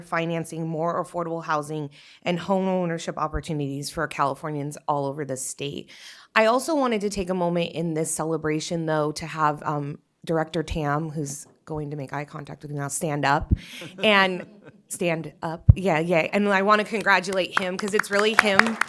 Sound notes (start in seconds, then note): 13.7 laughter; 18.7 applause